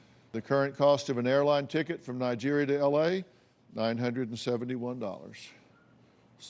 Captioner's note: none